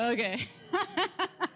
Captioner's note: laughs